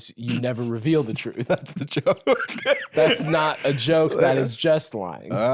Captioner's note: laughing